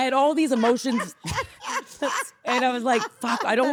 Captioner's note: laughing